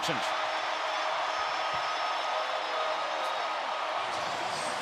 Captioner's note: crowd cheering